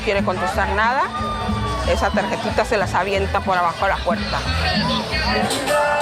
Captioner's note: continues speaking in Spanish